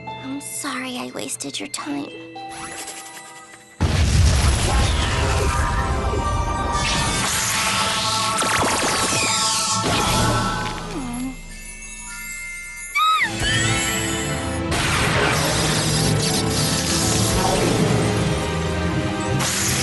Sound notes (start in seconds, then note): 2.5 scribbling; 3.8 boom!; 19.3 electricity crackling